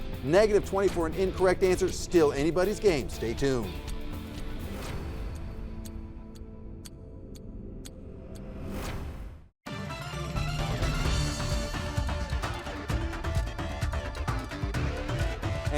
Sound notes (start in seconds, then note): 4.2 upbeat music; 5.5 clock ticking; 9.7 dramatic music